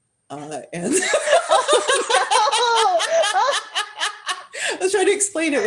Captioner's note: laughter